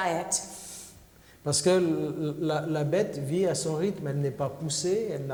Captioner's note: speaking french